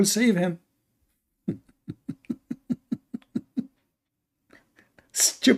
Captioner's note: Ketawa